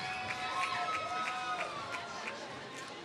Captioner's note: applause